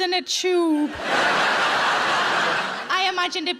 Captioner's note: audience laughs